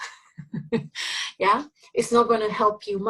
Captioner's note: instructor laughing